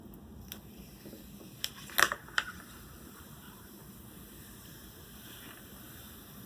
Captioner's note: the sound of removing the anti-scratch film